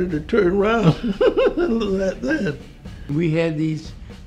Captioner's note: laughs